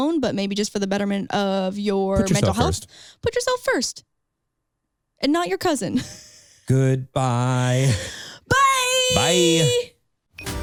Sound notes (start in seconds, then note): 6.1 laughs; 7.6 chuckles